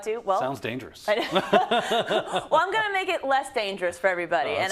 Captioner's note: laugh